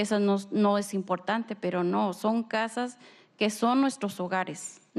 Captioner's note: speaking spanish